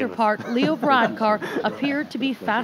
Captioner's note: laughter